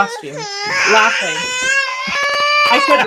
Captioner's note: crying